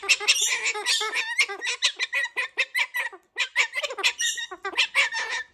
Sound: bird squawking

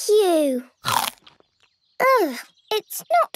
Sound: crunch!

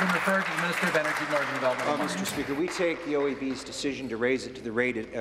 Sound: applause

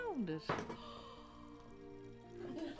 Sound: gasps

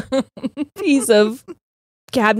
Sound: both laughing

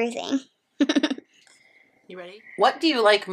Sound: laughs

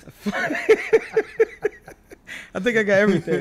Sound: laughing

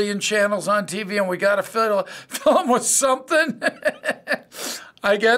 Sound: chuckling

